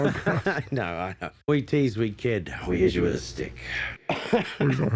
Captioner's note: laughs